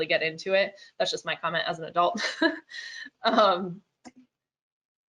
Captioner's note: chuckles